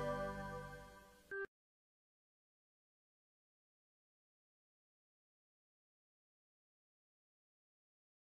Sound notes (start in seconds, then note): 2.7 silence